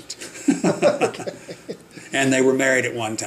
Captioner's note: both laughing